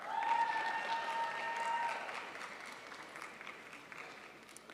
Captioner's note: crowd applauds